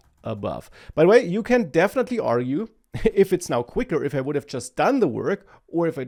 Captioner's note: laughs